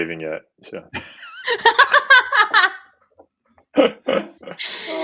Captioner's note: laughing